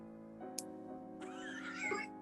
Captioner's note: click; laughing